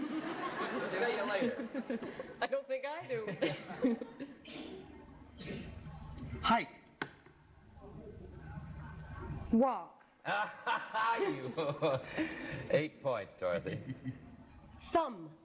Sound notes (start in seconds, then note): 0.0 laughter; 10.3 laughs